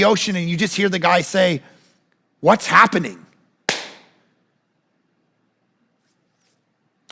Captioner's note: claps